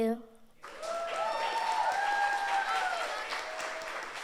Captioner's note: audience applauds